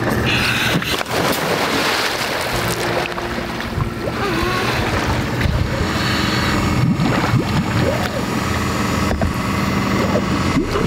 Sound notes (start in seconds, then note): 1.7 rope whirring; 1.7 water splashing; 7.4 water bubbling